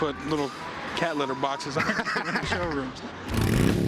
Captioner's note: laughs